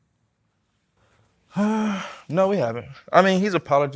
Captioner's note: sighs